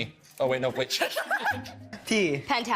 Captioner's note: everyone laughing